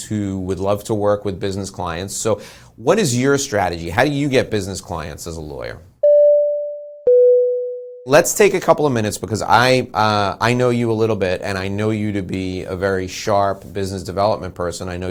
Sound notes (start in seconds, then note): 7.0 bell rings